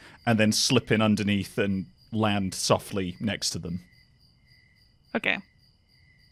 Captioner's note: cricket chirping ends